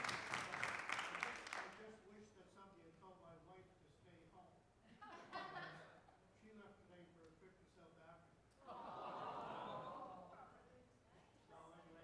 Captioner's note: applause